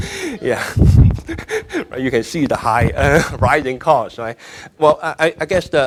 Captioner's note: laughing